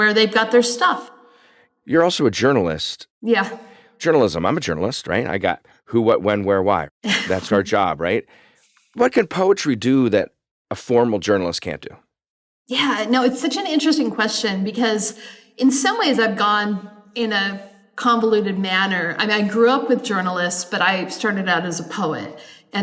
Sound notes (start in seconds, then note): 7.0 chuckles